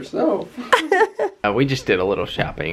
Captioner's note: laughter